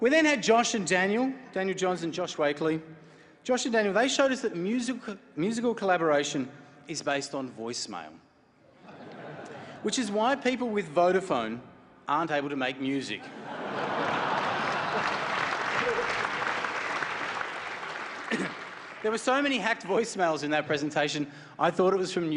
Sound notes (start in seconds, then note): 13.8 applause